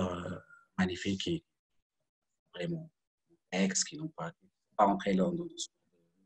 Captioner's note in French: coupure audio